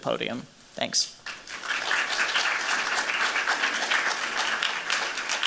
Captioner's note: applause